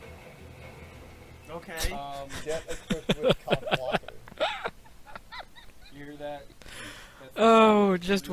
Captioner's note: laughs